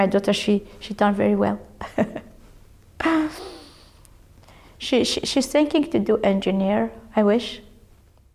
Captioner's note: laughs